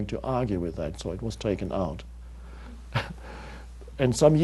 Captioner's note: chuckles